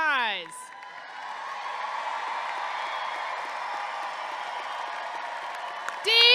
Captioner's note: audience clapping and cheering